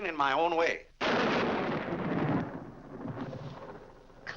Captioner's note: loud thunder